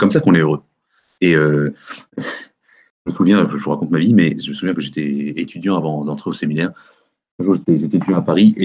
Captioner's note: light laugh